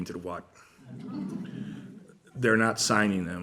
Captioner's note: laughter